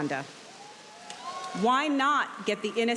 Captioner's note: audience cheering